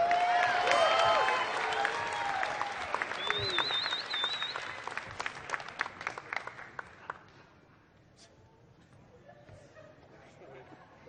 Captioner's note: applause